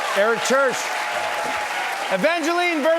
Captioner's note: cheers and applause